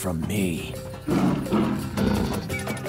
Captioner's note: roars